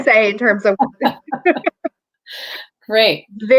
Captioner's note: laughter